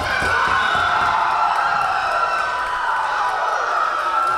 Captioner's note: Tigers cheering